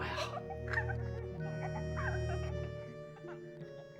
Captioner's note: family laughing and giggling